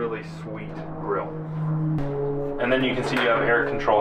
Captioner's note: plane roaring